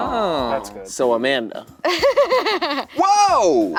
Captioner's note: laughing